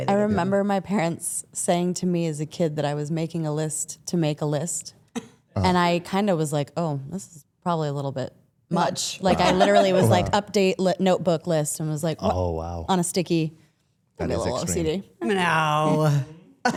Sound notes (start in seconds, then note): 15.4 laughs